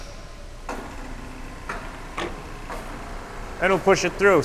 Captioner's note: machine hovering